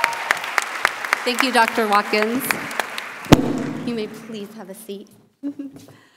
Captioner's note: cheers and applause